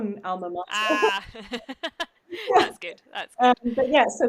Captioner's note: laughs